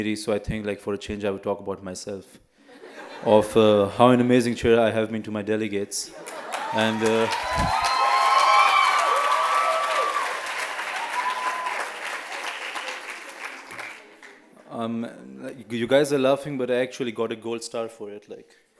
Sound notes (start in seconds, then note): 2.6 laughter; 6.2 cheers